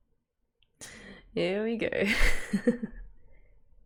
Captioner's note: laughs